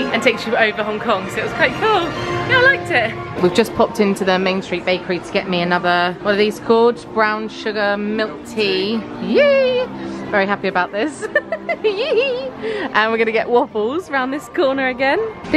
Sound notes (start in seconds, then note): 11.0 laughs